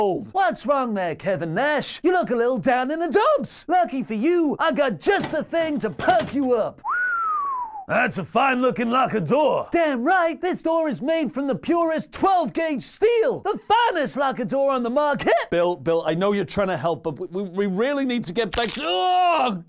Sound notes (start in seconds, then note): 6.8 whistles